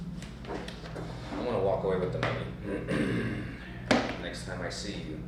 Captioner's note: clears throat